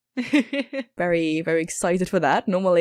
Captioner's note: laughs